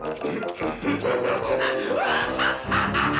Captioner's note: laughs